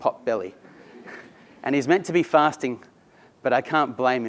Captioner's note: laugh